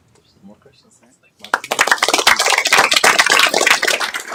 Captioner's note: applause